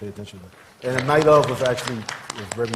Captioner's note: applause